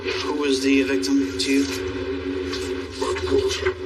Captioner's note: distotorted voicece